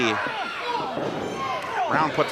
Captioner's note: groaning